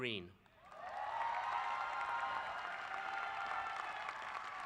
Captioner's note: applause